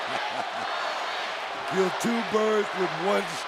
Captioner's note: applause